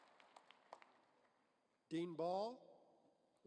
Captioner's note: applause